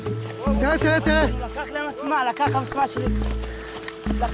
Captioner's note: Arabic spoken audio